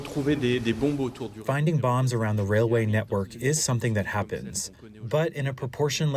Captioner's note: through translator